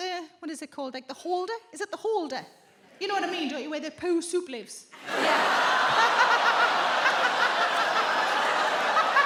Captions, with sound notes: what is it called? Like, the holder? Is it the holder? You know what I mean, don't you? Where the poo soup lives. -Yeah. -[audience with disgust] Oh! [laughs] [audience laughs]